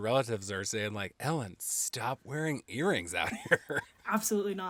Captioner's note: laughing